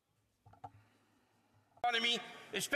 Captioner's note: speaking French